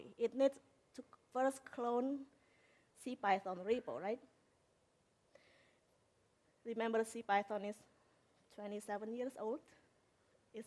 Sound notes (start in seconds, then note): none